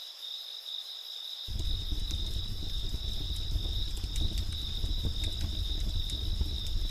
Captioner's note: campfire crackling; crickets chirping